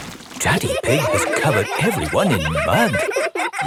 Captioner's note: all laughing